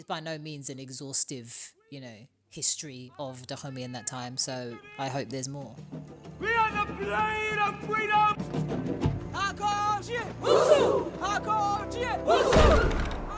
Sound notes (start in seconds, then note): 9.3 as characters, non-English language spoken; 11.9 as characters, non-English language spoken